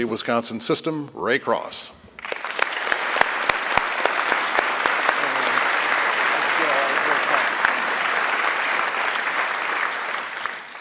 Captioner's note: applause